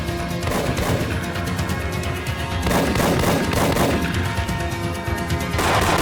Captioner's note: dramatic music; gunshots blasting